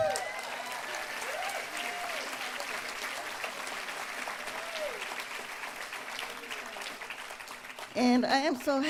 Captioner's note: applause